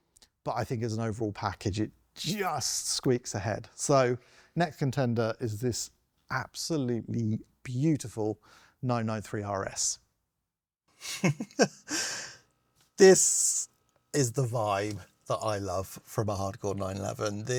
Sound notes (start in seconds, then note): 11.0 he chuckles